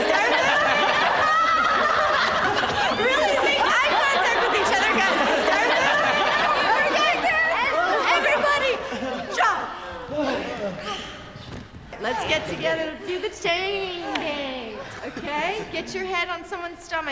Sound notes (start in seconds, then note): 0.1 laughter; 10.6 all breathing heavily